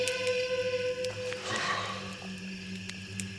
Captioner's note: exhaling